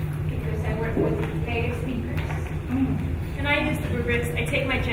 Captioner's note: speaking faintly